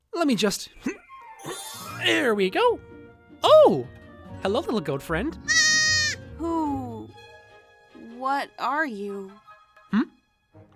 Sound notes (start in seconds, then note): 0.8 effort noise; 5.4 happy bleat